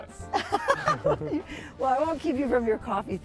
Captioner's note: laughing